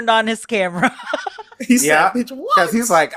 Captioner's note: laughs